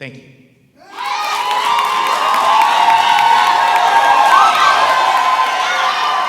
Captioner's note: audience applauding and cheering